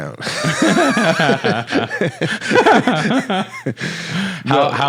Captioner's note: both laughing